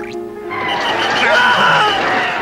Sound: crowd shouting; sirens; whistles

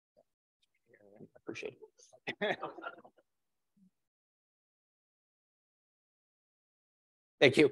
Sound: laugh

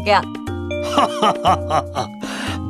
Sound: laughing

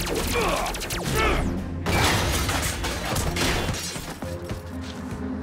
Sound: parts scatter

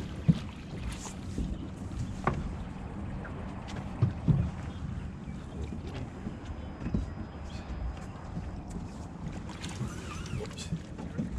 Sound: boat engine idling; fish splashing

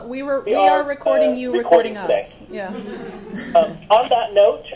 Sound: participants laugh

